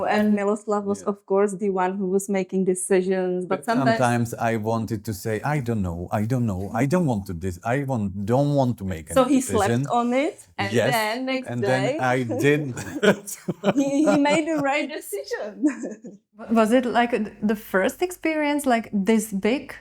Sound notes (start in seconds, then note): 11.5 laughing